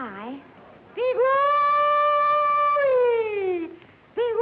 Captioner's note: hollering